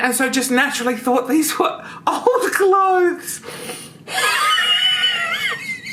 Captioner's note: laughs